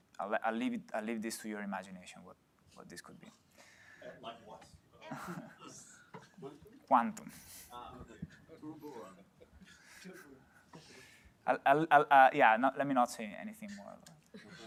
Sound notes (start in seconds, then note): 7.6 chatter; 14.3 laughter